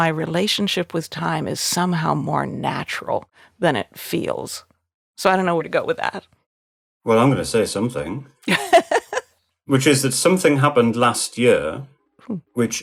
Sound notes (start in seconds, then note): 8.4 laughing